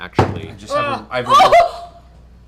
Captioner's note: shocked noise